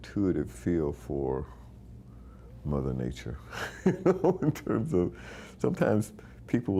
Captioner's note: laughing